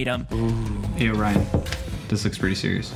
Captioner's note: door knocking